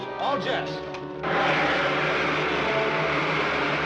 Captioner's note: jets hissing